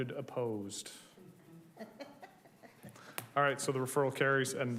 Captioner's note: group laughing